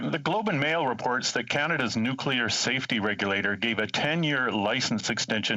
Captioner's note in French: voix de l'interprète